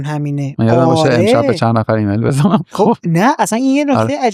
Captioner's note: laughs